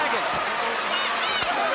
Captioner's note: crowd chatter